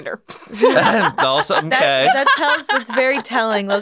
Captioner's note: laughs